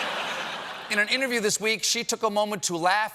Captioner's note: laughter